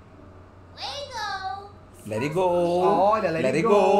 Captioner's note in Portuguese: Sims conversam